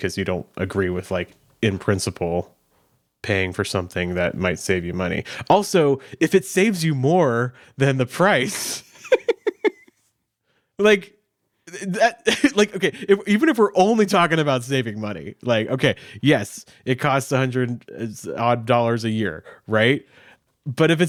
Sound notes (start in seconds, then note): 8.4 laughing